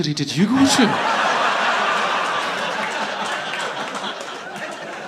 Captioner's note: audience laughing